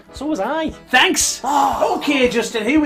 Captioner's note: groaning